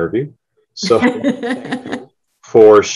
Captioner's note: laughs